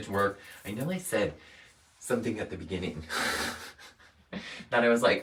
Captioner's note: chuckles